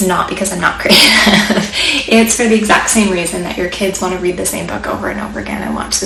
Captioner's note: ha ha